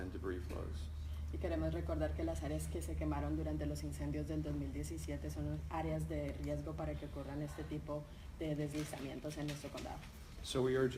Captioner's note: speaking in Spanish